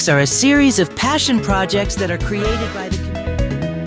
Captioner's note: Adachi's voice gets quieter as the scene fades to black